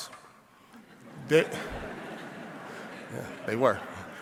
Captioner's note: audience laughing